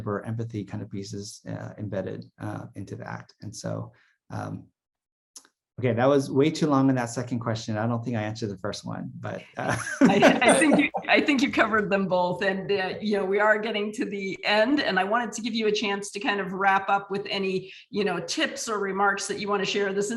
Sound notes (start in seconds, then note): 9.6 laughs